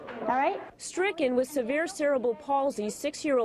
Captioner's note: voiceover